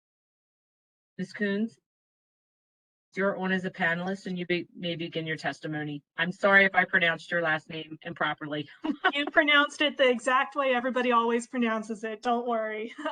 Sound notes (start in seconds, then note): 8.8 laughter